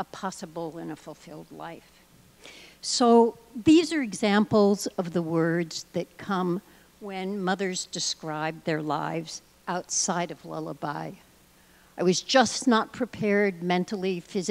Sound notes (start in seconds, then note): none